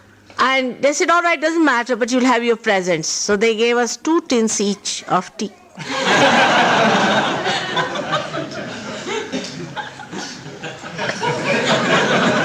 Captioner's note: laughter